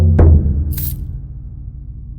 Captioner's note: coins rattle